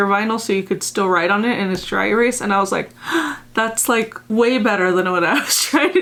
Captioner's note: gasp!; giggles